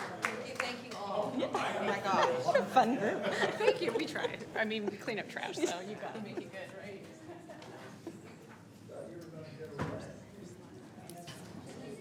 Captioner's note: applause